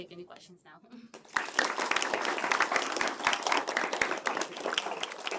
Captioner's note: applause